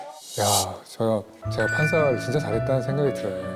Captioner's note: sound effect of feeling like he lived his life right